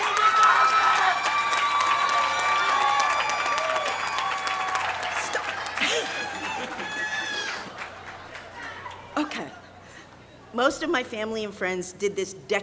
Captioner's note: cheering and applause